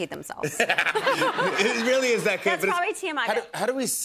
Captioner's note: laughter